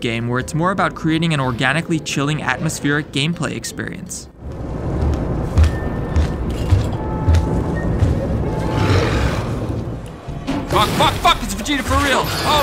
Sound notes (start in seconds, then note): 4.4 horrifying alien footsteps